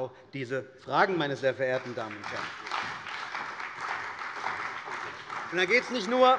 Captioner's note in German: Beifall bei dem BÜNDNISS 90/DIE GRÜNEN und bei Abgeordneten der CDU